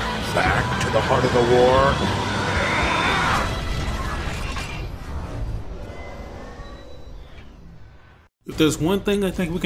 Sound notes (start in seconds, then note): 2.5 mechanical Sounds